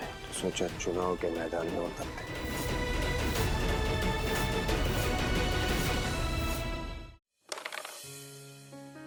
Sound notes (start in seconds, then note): 3.1 dramatic music playing; 7.5 carrom coins clacking